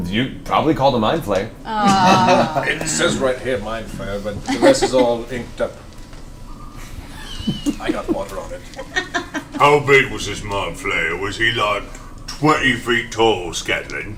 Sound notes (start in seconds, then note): 8.8 all laugh